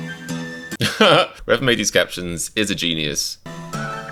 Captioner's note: laughs